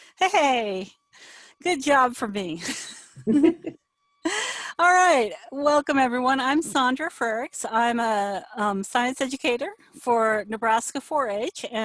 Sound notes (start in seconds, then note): 3.2 laughing